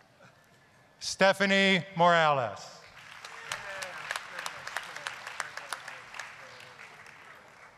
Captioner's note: applause